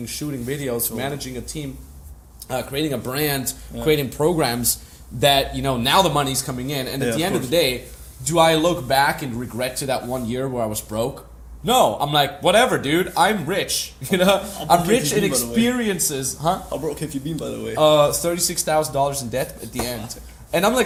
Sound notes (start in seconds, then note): 14.1 laughs